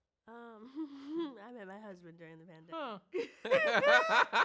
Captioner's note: both laugh; giggles